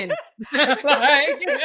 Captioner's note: laughing